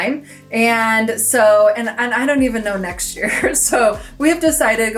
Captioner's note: chuckles